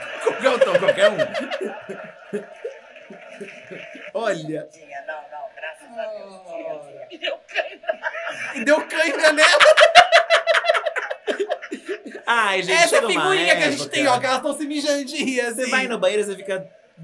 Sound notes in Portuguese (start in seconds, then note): 10.1 gargalha; 10.8 risos